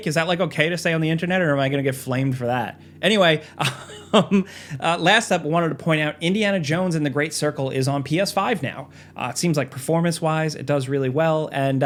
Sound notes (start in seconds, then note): 3.6 laughing